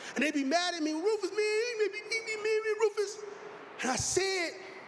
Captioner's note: mimicing whining